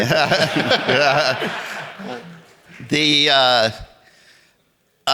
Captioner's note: audience laughing